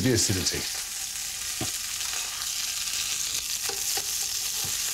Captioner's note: oil sizzling